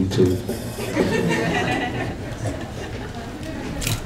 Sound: audience laughs

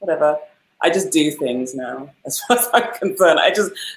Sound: laughs

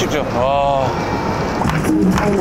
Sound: snap

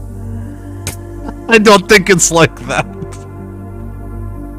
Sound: laughing

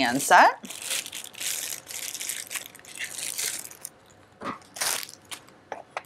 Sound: plastic wrapper rustles

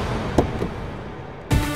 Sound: door opens

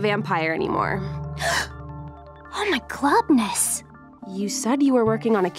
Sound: gasps

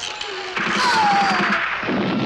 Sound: gunfire

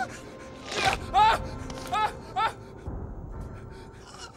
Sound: shouts

